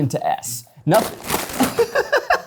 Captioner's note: bag rustling; laughing